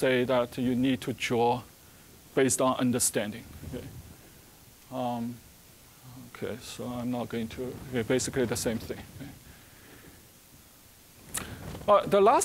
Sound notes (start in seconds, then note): none